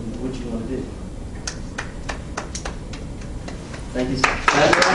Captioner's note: applauding